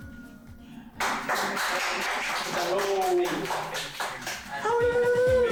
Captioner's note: applause